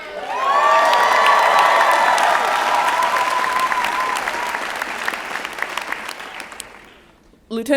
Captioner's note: applause and Cheering